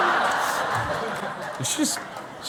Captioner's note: laughter